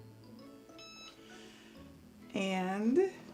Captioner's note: beeping